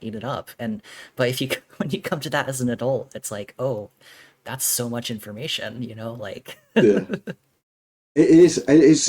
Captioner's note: laughing